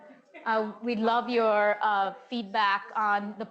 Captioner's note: audience chattering